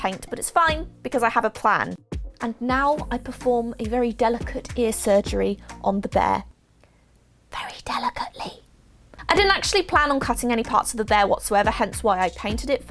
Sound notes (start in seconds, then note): 7.2 whispers